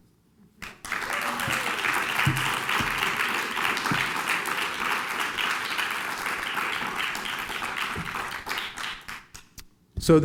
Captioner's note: applause